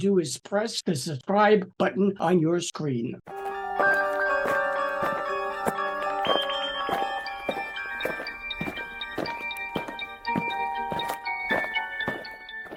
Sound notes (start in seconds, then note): 3.3 eerie music; 7.9 aliens marching